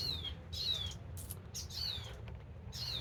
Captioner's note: birdsong